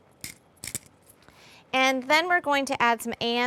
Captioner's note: grinding